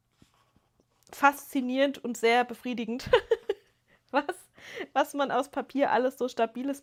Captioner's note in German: gelächter